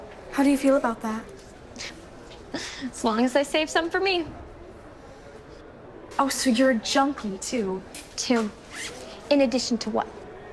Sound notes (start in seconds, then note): 1.9 chuckles